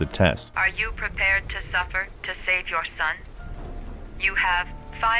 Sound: voiceover

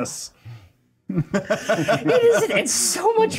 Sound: co-hosts laughing

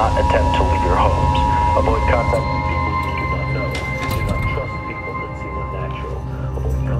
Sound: sound begins to muffle and fade away

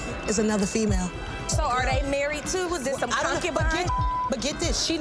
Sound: beep

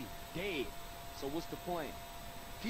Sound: none

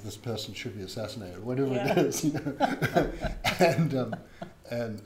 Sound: laughs

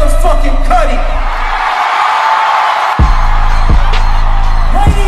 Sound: audience Cheering Intensifies

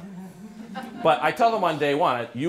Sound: laughter

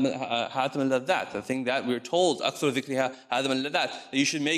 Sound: speaks in foreign language

